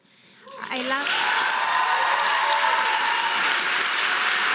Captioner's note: audience applauding